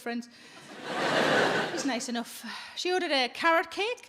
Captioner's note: audience laughs